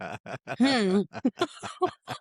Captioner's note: laughing